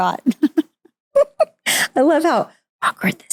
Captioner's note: both laugh